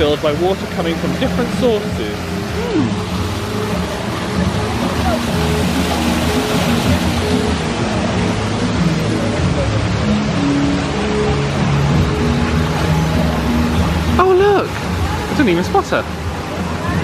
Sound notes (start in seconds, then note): 2.7 upbeat music continues; 2.7 water splashing